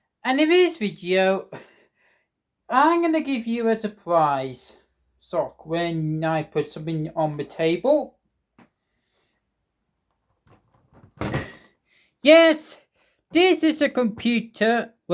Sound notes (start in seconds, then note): 10.9 laptop plops down on the table